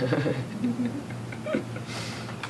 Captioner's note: laugh